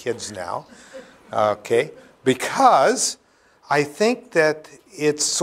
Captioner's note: laughter